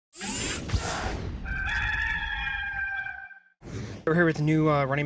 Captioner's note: mechanical whirring, rooster crowing